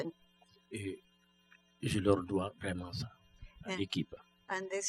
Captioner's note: speaking french